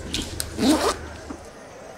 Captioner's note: Unzipping